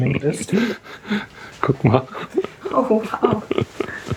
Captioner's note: laughs